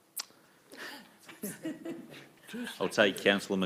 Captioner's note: laughing